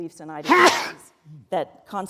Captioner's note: audience sneeze